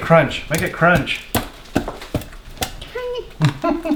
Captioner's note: banging; laughter